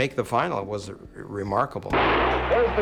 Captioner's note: starter's pistol fires